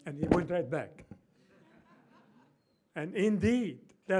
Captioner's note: laughter